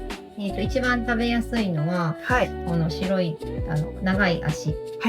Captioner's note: speaking Japanese; server speaking Japanese